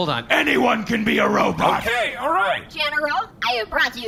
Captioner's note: shouting; in a very quavery, robotic voice